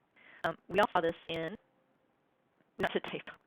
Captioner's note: glitching speaking